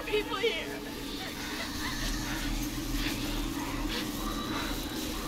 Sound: whisper

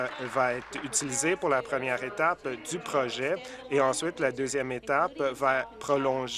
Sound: applause

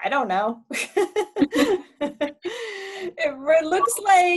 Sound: laughs loudly

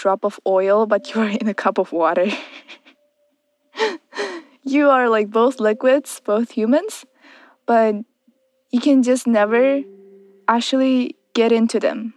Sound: laughs

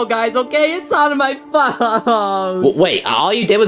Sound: sobbing

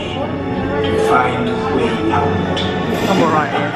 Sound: evil laughter

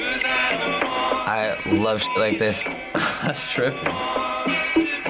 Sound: chuckles

